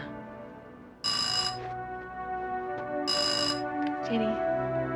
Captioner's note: doorbell ringing